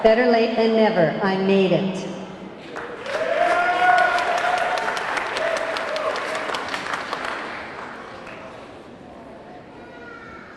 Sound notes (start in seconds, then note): 2.6 audience clapping; 2.8 audience cheering